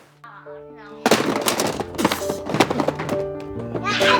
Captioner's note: boxes clutter